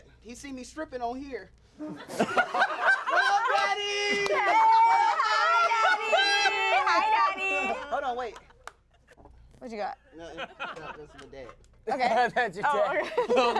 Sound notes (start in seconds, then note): 1.9 everyone laughs; 12.8 everyone laughs